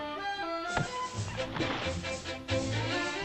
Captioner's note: chopping sounds; suspenseful music; thump; suspenseful music